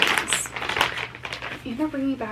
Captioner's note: package rustling